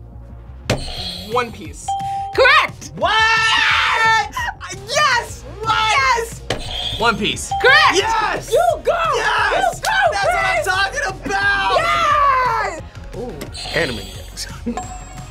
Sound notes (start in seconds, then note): 1.9 bell rings; 1.9 buzzer rings; 7.4 bell rings; 7.5 buzzer rings; 13.6 buzzer rings; 14.4 laughs